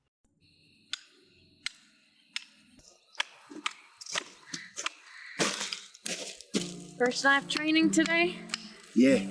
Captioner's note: approaching footsteps; rock pounding as hammer